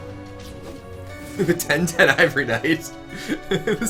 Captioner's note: laughs